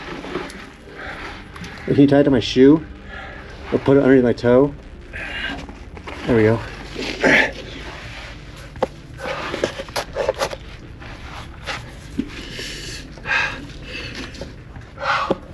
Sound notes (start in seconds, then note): 7.9 grunting